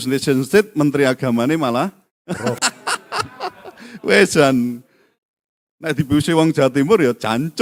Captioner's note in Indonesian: tertawa